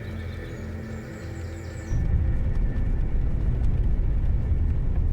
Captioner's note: birds chirping